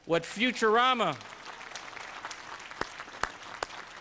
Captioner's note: applause